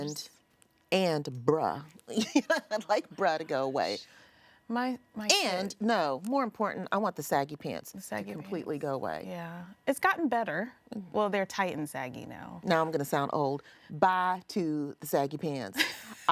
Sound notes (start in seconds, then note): 2.2 laughs